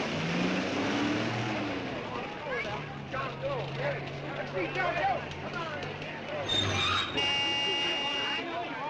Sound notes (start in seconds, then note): 6.5 horn honks